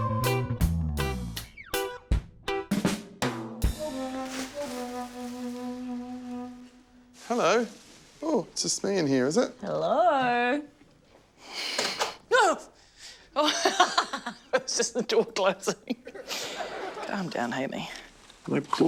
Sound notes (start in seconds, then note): 11.7 clattering; 15.6 laughs